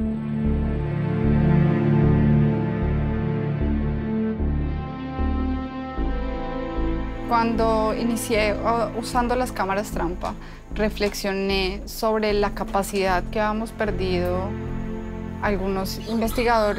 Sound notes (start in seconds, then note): 1.3 dramatic music; 7.6 speaks foreign language